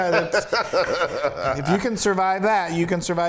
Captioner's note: laugh